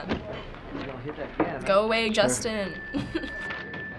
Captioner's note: giggles